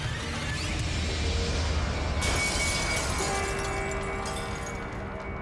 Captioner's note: glass shattering